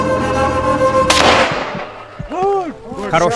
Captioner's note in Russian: выстрел